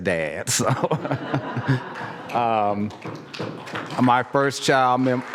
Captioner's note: laugh; applause